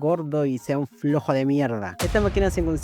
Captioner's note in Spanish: efecto sonoro